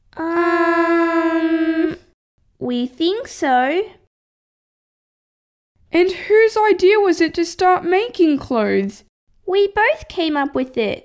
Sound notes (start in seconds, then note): none